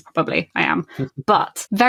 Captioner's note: laughs